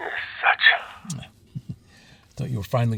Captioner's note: chuckles